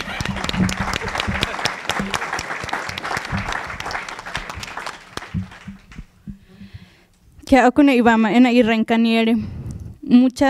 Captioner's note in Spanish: Aplausos